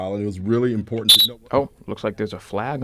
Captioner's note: whistle